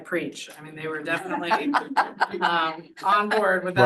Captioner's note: audience laughs